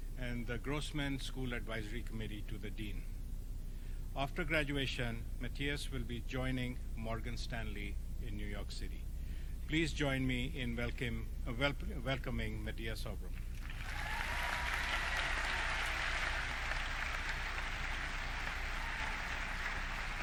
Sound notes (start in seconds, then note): 13.4 audience clapping